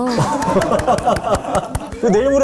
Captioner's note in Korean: 짝 짝 짝